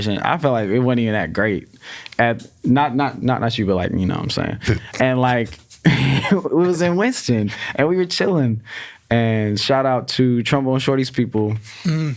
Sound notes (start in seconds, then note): 5.8 laughs